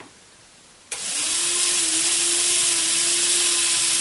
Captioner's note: fast running motor